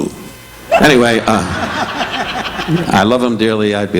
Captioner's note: audience laughing